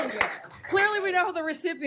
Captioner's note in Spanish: aplausos